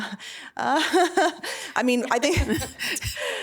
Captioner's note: chuckling; laughing